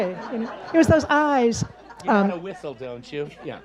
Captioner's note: audience laughs